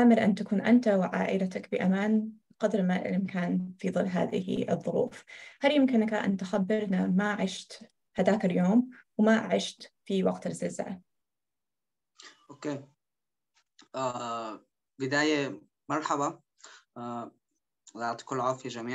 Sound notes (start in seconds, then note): 7.4 speaking In Arabic